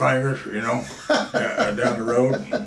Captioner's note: laughs